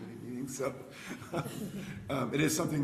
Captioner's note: chuckles